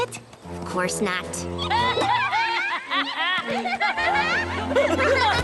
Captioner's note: hysterical laughter